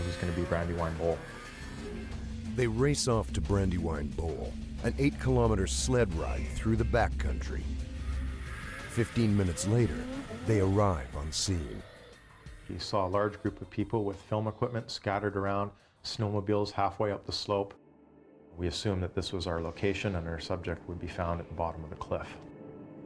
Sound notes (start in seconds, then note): 12.7 voiceover